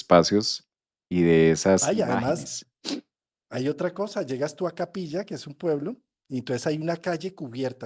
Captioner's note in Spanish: resoplido